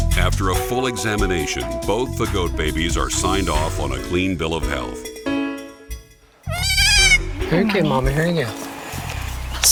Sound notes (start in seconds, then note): 6.5 kid fussing